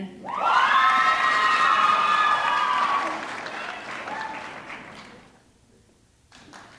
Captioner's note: audience screaming; audience clapping